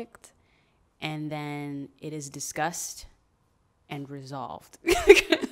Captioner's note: laughs